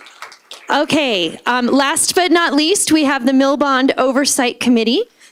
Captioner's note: applause